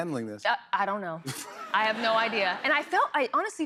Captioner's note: laughter